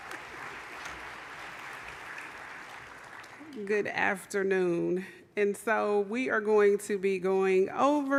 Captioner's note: applause